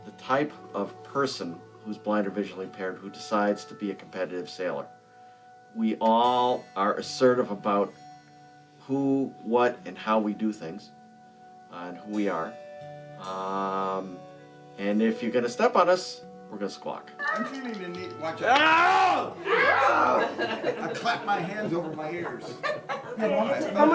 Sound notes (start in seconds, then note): 18.7 shouts